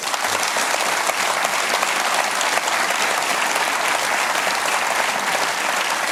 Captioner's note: applause